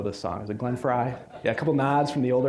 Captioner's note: audience laughing